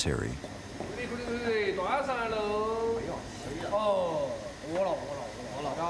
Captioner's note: speaking in foreign language